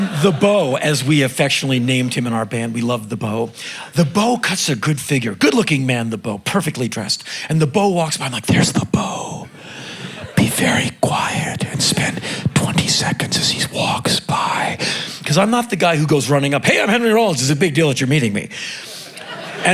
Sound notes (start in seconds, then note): 10.2 whispering; 15.1 talking normally